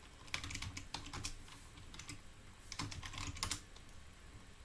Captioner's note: keyboard clicking